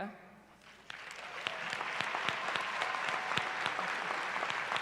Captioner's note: applause